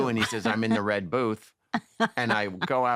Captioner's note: laughs